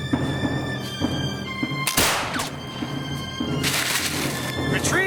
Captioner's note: gunfire